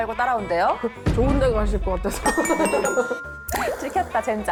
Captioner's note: right answer SFX